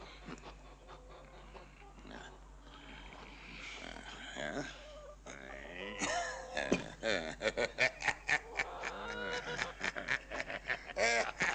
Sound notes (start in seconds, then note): 5.8 Emmett chuckles; 8.1 both laughing